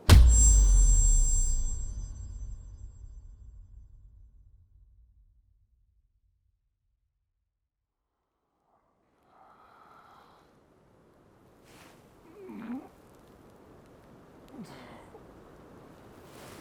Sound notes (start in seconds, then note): 0.1 suspenseful music; 12.8 James groaning